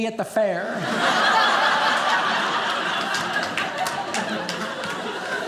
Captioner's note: audience laughing